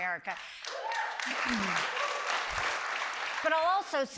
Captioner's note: applause